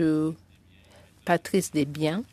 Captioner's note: speaking French